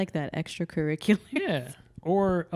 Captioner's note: laughs